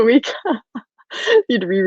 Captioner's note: laughing